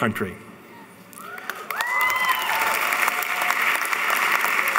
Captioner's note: applauding